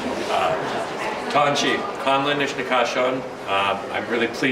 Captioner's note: speaking in a foreign language